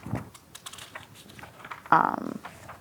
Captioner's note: pages rustling